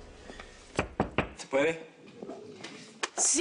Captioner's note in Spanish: Toques en la puerta